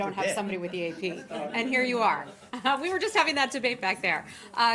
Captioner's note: laughter